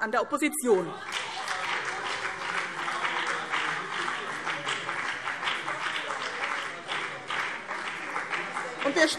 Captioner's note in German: Beifall : Das machen wir nicht!